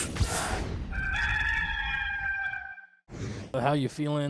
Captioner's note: rooster crowing